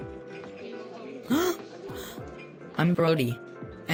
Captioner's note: breathing